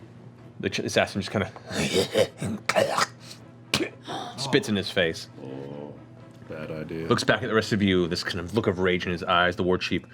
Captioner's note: gurgles